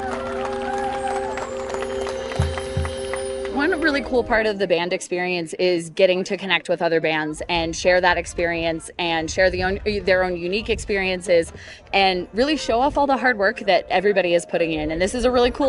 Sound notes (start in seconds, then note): 3.8 applause